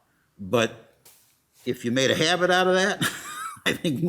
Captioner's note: laughs